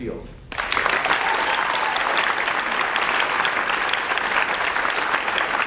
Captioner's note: audience cheers and applauds